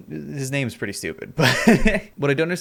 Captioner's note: laughs